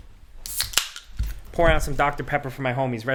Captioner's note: can clanking